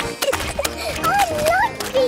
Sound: giggling

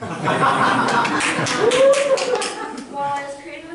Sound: laughter

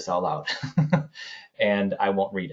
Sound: chuckles

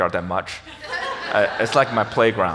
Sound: audience laughs

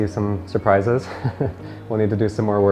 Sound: laughs

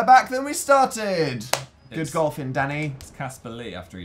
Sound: claps

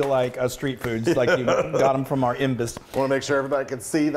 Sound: laugh

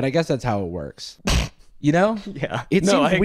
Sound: snorts

